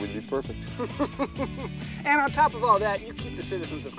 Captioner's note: laughter